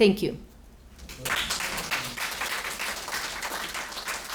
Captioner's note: applause